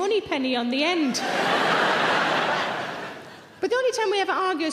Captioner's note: audience laughing loudly